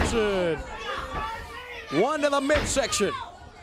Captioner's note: crowd chatter; crowd cheering